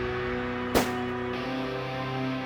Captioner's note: gun shot